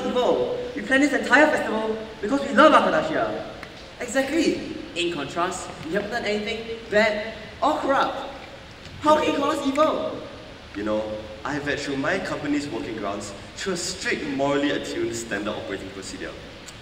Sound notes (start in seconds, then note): none